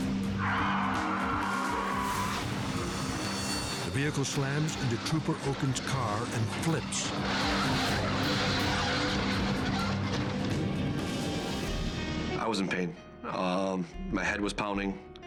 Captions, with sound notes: (tires screech) The vehicle slams into Trooper Okon's car and flips. (metal screeches) - I was in pain. My head was pounding.